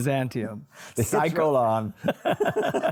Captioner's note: both laugh